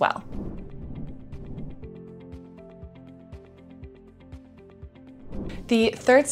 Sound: gentle music; air whooshes

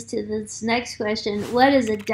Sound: keyboard clicking

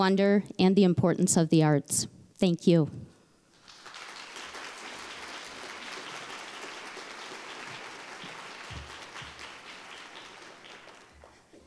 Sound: applause

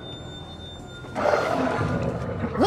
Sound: growls

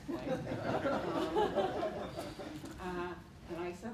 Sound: laughter

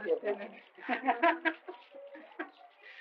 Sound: laughter

